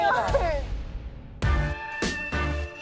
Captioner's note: crying; dance music